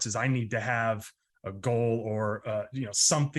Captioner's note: none